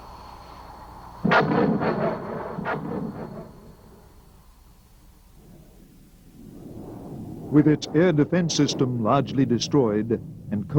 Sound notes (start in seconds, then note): 1.2 bomb exploding